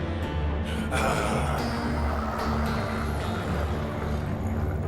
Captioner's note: Lenore growls; eerie music